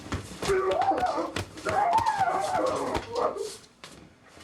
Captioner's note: screaming